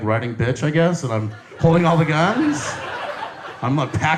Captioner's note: audience laughs